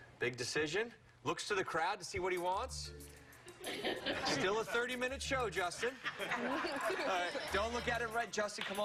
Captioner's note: laughter